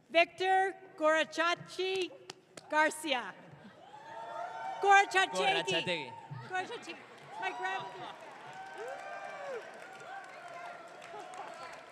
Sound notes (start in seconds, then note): 4.4 audience cheering; 5.5 speaks gibberish